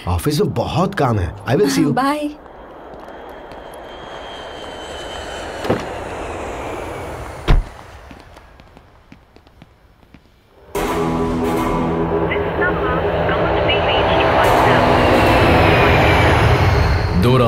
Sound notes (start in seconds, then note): 2.2 airplane engine revving; 3.3 car door opening, closing; 15.3 airplane engine revving